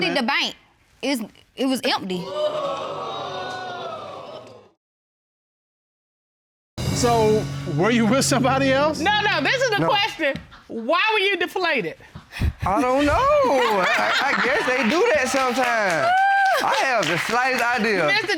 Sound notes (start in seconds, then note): 2.2 audience exclaims; 12.6 laughs